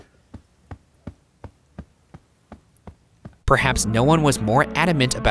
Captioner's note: soft patting